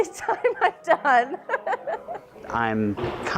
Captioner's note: laughing